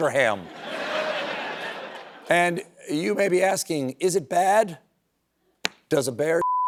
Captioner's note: laughter